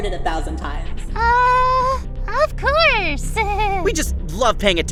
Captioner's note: nervous laugh